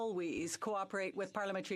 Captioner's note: speaking French